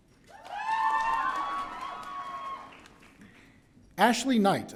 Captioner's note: audience cheering